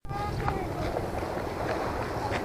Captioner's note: sound of footsteps, waves rushing to the shore